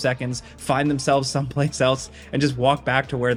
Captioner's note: laughing